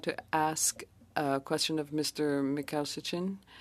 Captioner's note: speaking French